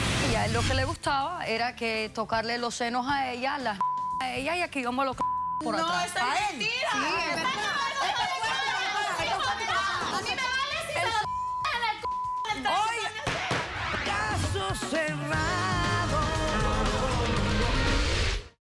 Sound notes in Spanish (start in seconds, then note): 4.8 Bip; 7.9 Comentarios al unísono; 11.2 Bip; 13.9 Bip